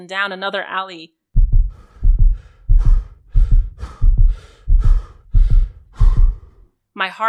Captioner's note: breathing hard and the pounding of one’s heart